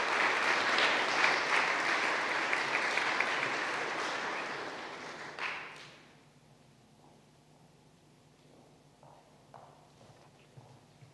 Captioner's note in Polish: oklaski